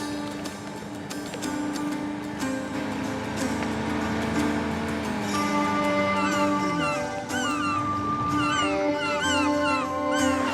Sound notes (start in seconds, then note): 5.5 cawing; 8.2 irish music